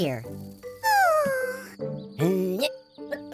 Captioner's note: sighs; grunts